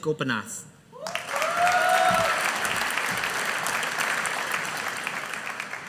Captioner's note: audience applauding